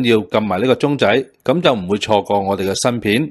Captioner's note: speaking chinese